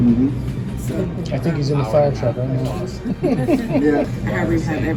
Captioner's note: laughter